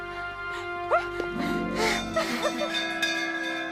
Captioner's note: moans; bell Rings